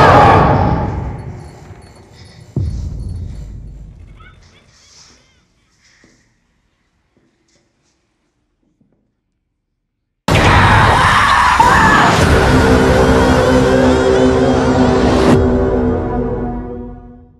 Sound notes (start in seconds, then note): 1.6 lights buzz; 4.0 distant maniacal laughing; 10.3 screams; 12.6 terrifying music